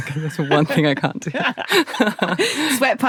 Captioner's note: both laughing